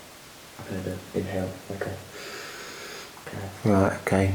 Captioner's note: inhales deeply